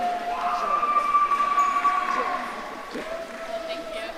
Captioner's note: audience cheering